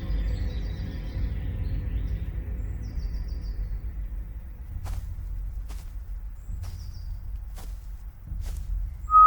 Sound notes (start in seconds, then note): 4.6 footsteps thumping